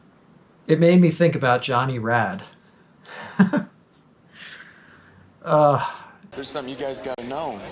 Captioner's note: laughs